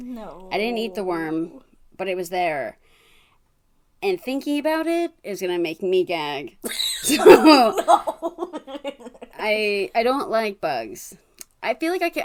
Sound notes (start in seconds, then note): 6.8 laughs